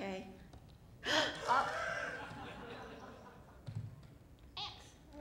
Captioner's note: laughter